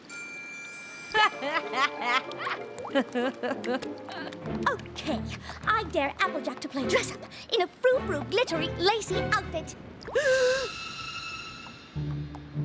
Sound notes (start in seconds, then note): 1.1 applejack laughs; 10.1 gasps